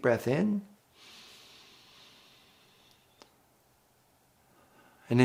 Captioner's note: inhales deeply